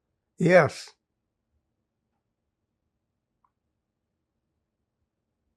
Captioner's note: pauses 6 seconds